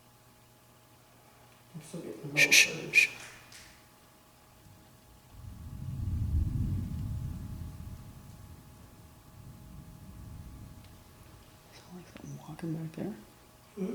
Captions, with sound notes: shhh [thunder] sound like something walking back there